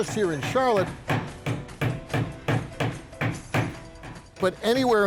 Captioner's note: hammer pounding